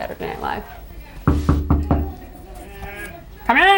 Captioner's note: knocking on door